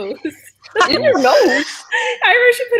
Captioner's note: people laughing